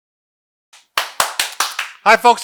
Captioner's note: clapping